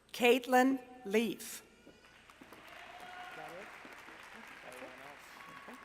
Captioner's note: applause